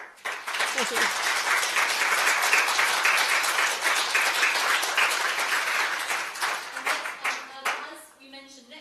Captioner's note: applause